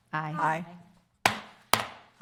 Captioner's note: gavel